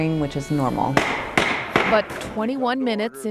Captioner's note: gavel banging